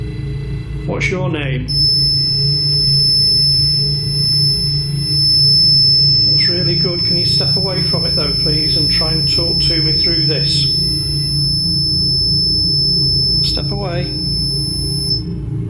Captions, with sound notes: What's your name? (REM pod beeping) That's really good. Can you step away from it, though, please, and try and talk to me through this? Step away.